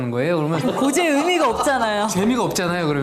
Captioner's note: ㅎㅎㅎㅎㅎㅎㅎ